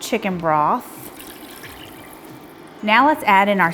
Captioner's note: broth sloshing